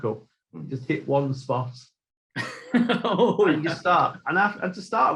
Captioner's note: laughing